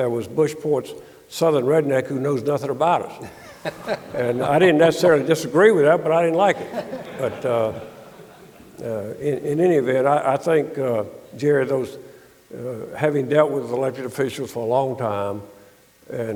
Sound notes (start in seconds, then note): 3.2 audience laughing; 3.2 laughing